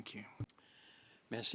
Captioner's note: speaking French